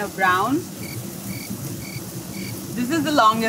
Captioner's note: cricket chirping